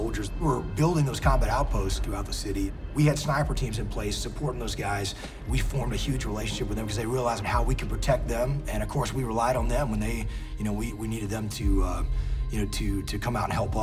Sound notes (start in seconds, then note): none